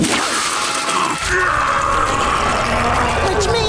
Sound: roaring

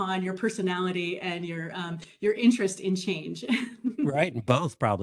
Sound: laughs

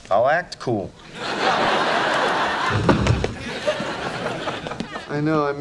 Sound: audience laughing

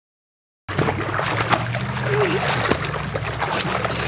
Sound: splashes; laughs

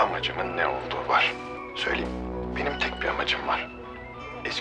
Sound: Akif voice

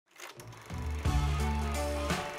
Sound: film projector clicks on

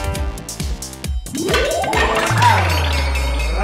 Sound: sticks falling sound

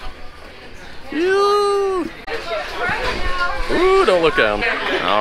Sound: screams

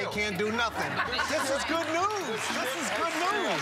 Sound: audience laughing

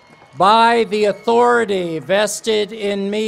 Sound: cheers and applause

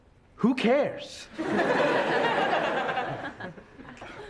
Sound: class laughs

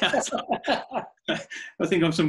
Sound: laughing

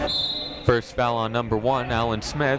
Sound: whistle blowing; shouting

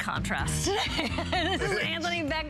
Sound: laughter

